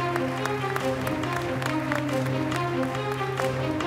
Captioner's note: applause